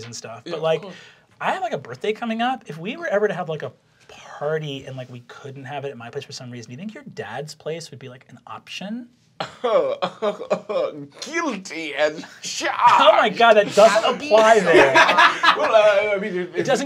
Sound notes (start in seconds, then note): 9.5 chuckling; 14.4 laughter